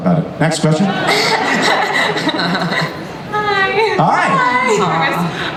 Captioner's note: laughs; voiceover; voiceover